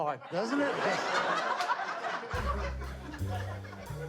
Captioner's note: laughing